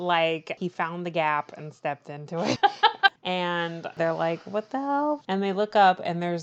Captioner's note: laughs